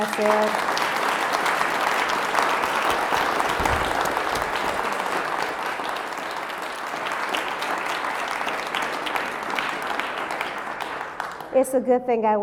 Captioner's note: applause